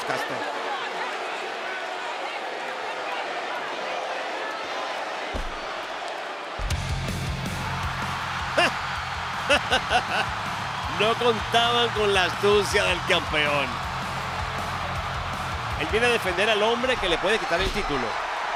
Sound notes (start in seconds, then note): 0.0 applause; 9.4 laugh